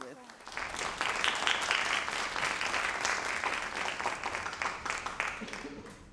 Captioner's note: all applauding